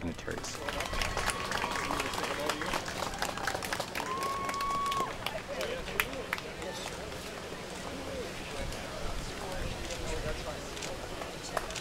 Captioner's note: crowd sounds